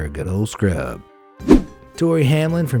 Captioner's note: air whooshing